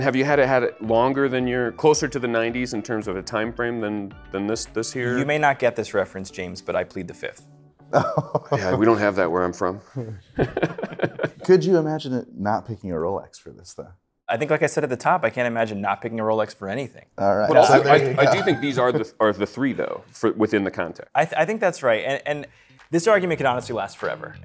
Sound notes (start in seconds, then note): 10.3 chuckling; 10.3 laughing